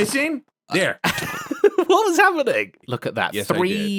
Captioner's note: laughs